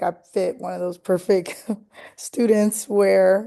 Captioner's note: laughter